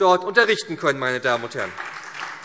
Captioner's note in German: Beifall SPD